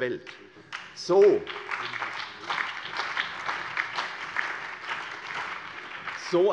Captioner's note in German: Beifall CDU, BÜNDNIS 90/DIE GRÜNEN, SPD und vereinzelt AfD